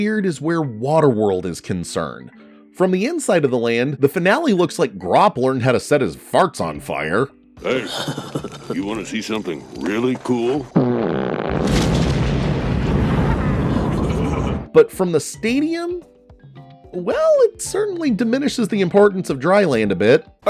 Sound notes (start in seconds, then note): 10.7 fart blows; 12.0 flames roaring; 14.0 chuckling